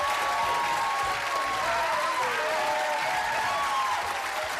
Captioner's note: cheers and applause